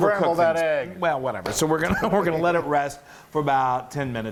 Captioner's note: laugh